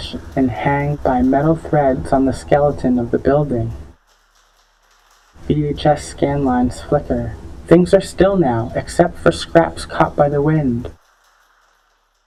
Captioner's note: creaking and clicking